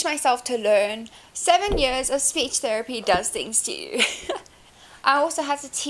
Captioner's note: laughs